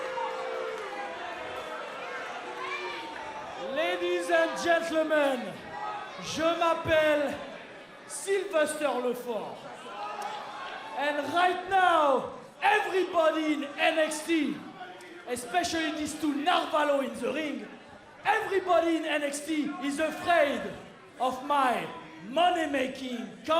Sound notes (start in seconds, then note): 0.3 crowd chatter; 7.0 speaking in foreign language